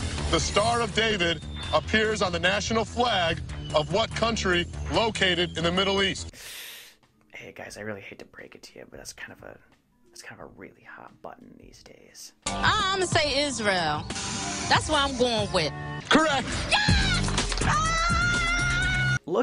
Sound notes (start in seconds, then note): 6.3 sharp inhale